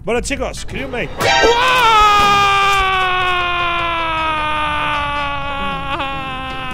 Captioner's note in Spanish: grita